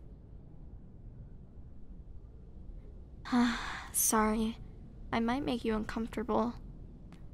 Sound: sigh

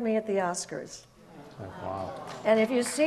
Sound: audience murmurs

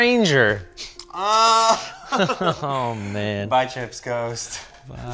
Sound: chuckles

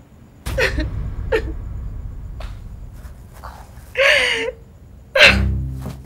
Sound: cries

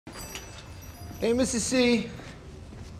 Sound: shop bell jingling

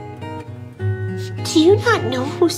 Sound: sniff

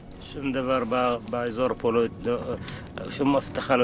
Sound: speaking arabic

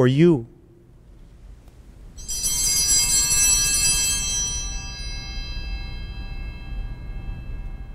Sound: bells ringing

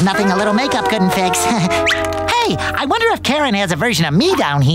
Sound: chuckles

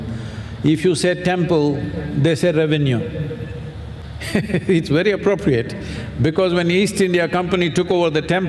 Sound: laughs

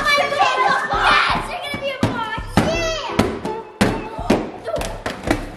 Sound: children making noice

